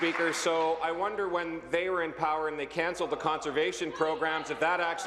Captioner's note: applause